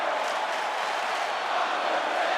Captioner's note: audience clapping